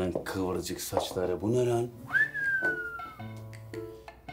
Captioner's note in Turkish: Islık Çalar